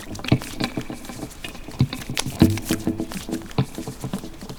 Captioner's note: vigorous rinsing